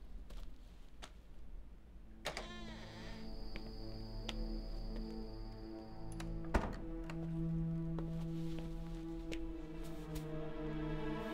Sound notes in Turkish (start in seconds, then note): 2.3 Kapı açılma sesi; 6.1 Kapı kapanma sesi